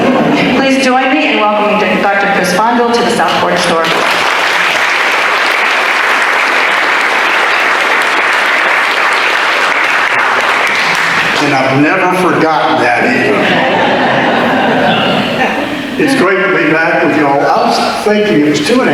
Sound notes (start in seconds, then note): 3.7 audience Applause; 12.9 audience laughter